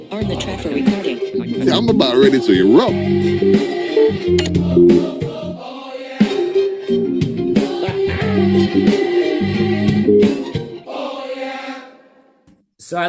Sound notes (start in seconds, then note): 3.3 lively music; 4.3 software beeping; 7.8 laughing